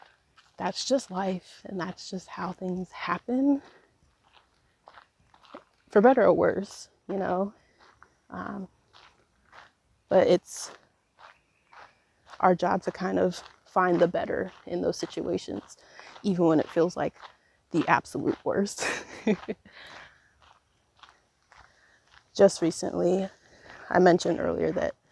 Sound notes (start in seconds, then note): 18.8 laughs